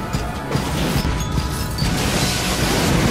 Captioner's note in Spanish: cristales rompiéndose